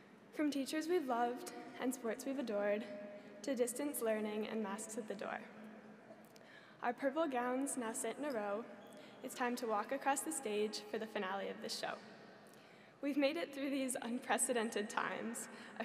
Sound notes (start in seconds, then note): none